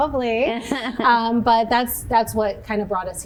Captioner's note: chuckles